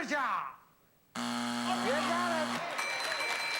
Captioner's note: buzzer